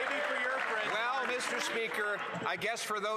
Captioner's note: some Applause